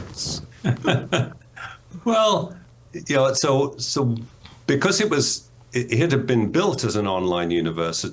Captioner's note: laughs